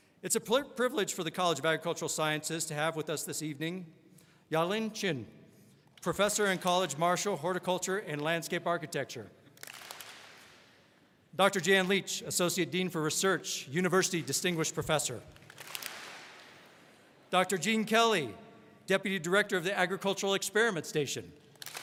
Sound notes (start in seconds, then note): 9.6 all clap; 15.3 all clap